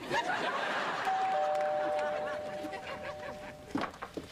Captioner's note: doorbell rings